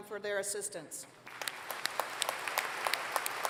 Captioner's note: applause